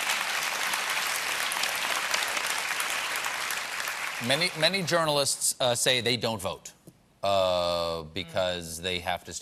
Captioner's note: applause